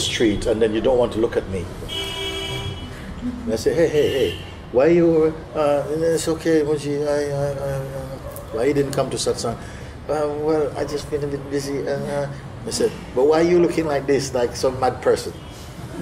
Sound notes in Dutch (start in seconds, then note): 7.3 mompelt